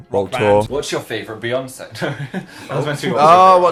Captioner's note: laughs